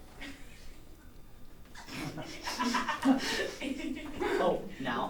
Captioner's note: laughter